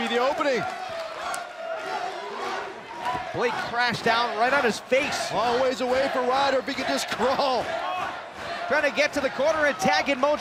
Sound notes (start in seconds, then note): 3.1 fans chanting